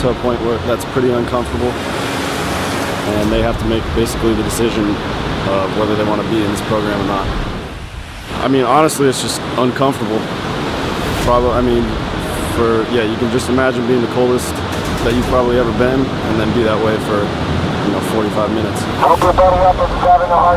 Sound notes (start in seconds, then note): 2.1 waves rushing